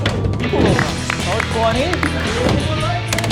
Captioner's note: applauding